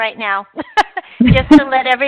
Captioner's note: laughing